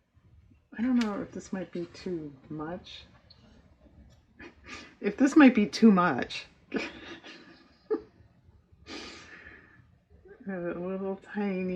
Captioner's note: laughs